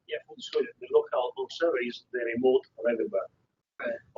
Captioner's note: man talking